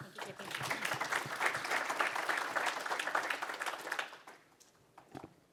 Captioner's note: applause